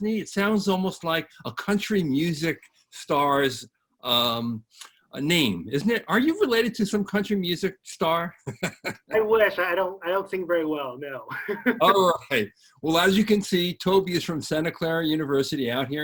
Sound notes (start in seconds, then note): 8.4 laughs; 11.1 laughs